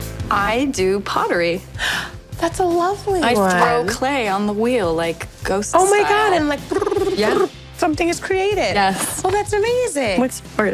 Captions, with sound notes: I do pottery. (GASPS) That's a lovely one. I throw clay on the wheel, like Ghost style. Oh my God! And like... (MIMICS SOUND OF POTTER'S WHEEL) ...something is created! -Yes. -Oh, that's amazing! What's yours?